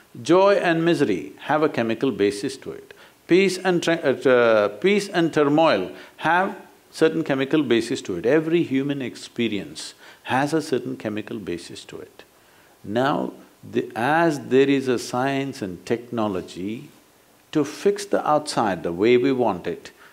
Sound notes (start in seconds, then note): none